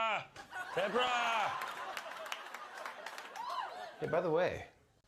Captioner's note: laughter